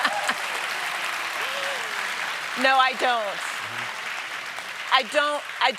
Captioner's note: applause